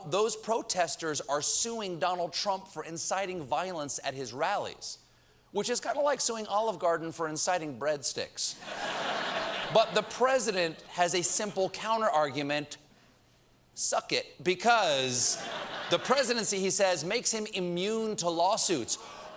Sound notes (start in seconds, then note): 8.6 laughter